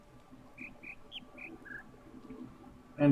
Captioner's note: bird chirps ˧ ˧ ˥ ˧ ˩